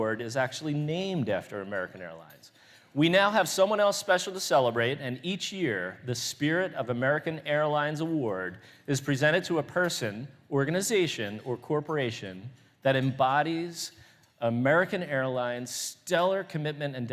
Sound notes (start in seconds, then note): none